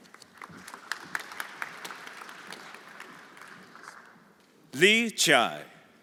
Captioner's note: everyone applauding